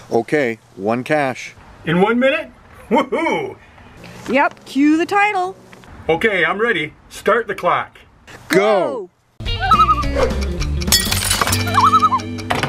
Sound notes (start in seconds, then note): 9.5 loon call; 11.7 loon call